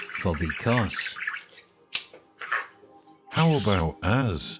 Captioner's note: birds twittering